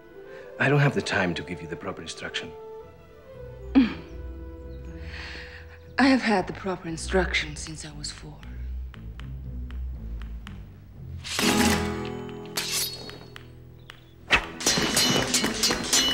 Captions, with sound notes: I don't have the time to give you the proper instruction. [LAUGHS] I have had the proper instruction since I was 4.